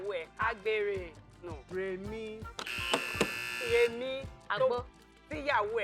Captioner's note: buzzer pressed